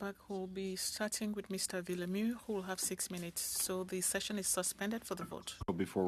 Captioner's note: speaking French